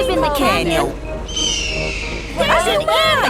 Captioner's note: eagle shriek